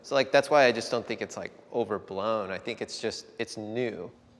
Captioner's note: none